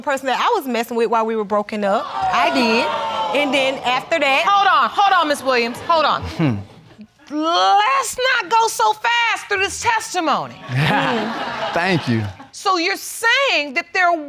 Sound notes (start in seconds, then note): 2.0 audience exclaiming; 10.6 audience laughing; 10.6 chuckles